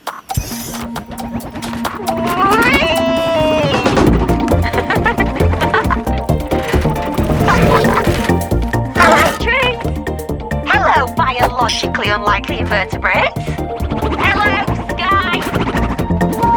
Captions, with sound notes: (light music) Whee! (D.O.R.I.S. laughs) Hello tree! Hello biologically unlikely invertebrate! (hoverboard whooshes) Hello sky!